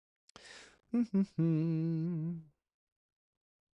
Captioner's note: hums